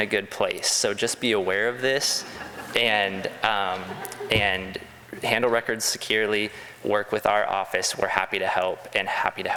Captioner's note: crowd laughs